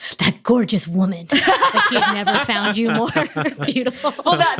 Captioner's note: laugh